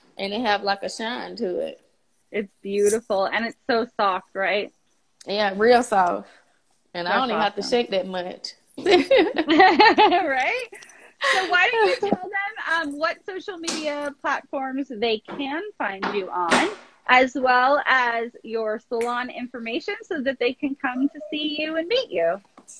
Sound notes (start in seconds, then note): 8.8 laughs; 8.8 giggles